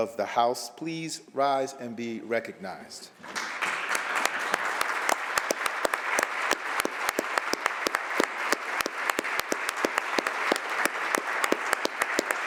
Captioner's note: applause